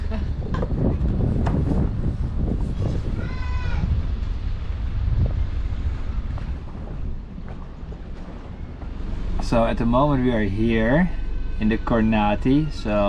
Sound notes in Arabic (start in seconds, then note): 0.3 يضحك; 1.1 هدير الرياح; 2.0 يتمتم